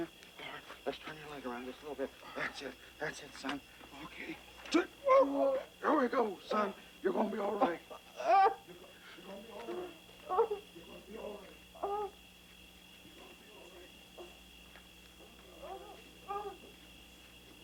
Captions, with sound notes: Lord, let's turn your leg around just a little bit. That's it, that's it, son. Okay. Here we go, son. You're gonna be all right. (Tater whimpering) You're gonna be all right. You're gonna be all right. You're gonna be all right. (Tater moaning)